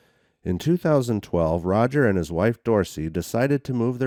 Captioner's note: voiceover